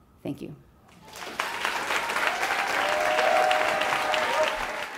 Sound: audience applauds

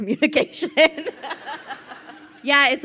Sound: crowd laughing

